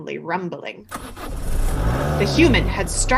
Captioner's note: car engine starting sound